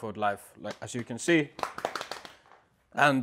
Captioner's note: drums belly